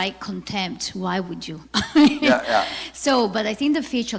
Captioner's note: laughs